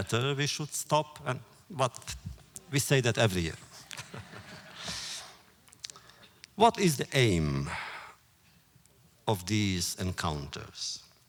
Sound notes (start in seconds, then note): 3.9 audience laughter